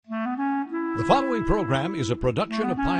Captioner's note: voiceover